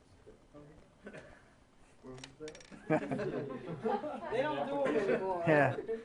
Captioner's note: laughing